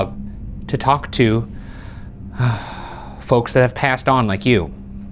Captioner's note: sighing